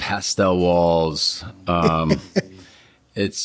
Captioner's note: Gilligan chuckles